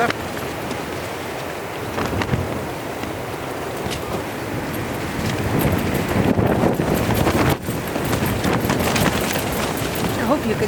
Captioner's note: sound of the tent walls shaking